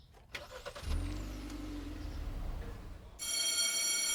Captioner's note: car engine firing; bell ringing